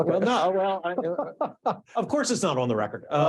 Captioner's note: laughing